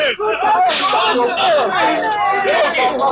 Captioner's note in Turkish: Kargaşa, bağırışlar, çığlıklar